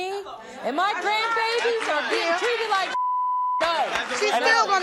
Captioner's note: beeps